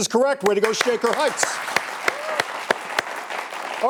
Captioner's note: applause